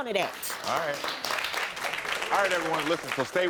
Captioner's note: audience applauds